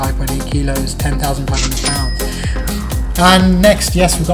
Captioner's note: dings